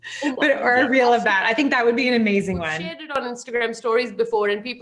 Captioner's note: chuckles